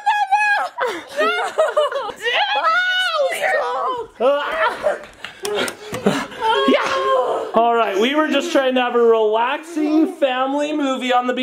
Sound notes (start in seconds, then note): 3.4 laughs; 5.4 panting